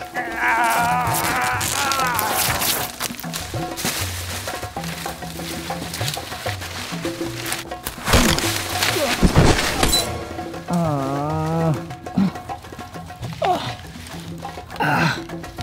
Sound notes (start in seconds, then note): 0.0 groans; 0.0 grunts; 0.3 sounds of clothing ripping; 10.6 groan